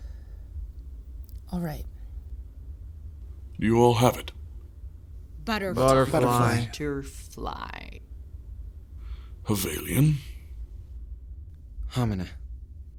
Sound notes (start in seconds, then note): 5.6 in discordant unison